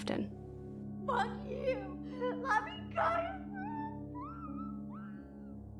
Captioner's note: muffled screaming